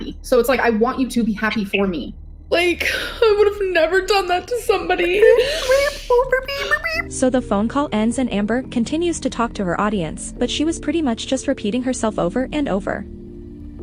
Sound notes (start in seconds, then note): 5.0 manipulative crying; 5.0 Beeker noises